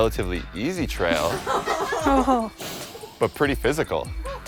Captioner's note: laughing